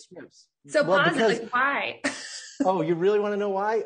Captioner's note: laughs